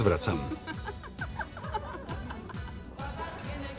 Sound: laughing

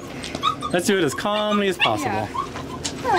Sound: puppy squeals

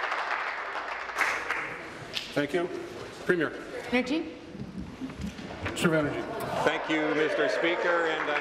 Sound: applause

